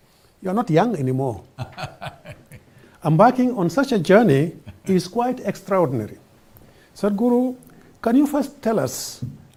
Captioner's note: Sadhguru laughs